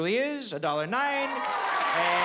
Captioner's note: applause